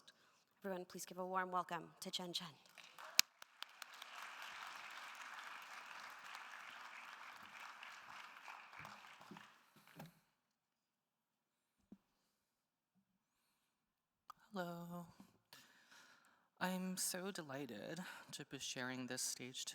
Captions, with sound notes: Everyone, please give a warm welcome to Chen. (attendees applauding) - Hello, I'm so delighted to be sharing this stage today